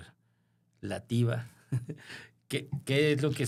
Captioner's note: laughter